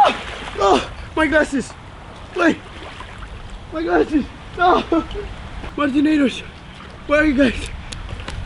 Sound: moans, grunts, adrenaline

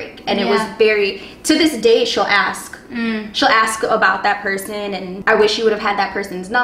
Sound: mmm

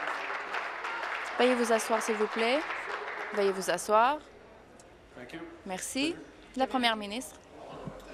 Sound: applause

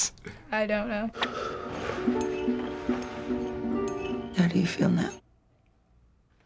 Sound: spoon clanking

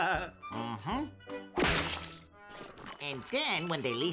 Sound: hand whacks

